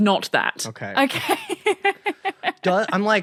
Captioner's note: laughs